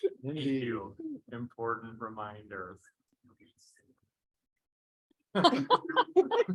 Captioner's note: laughing